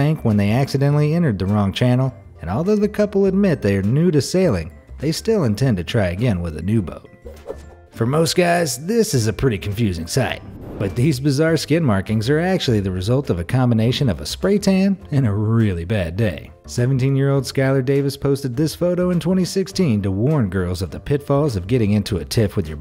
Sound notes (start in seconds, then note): 7.3 air whooshing